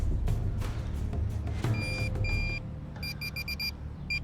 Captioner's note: beeping sounds